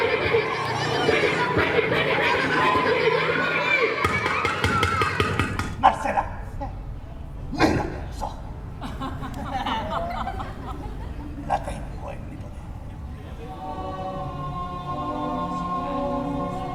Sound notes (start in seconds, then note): 8.7 audience laughs; 13.4 romantic music